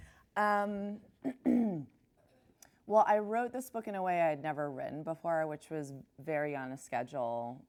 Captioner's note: clears throat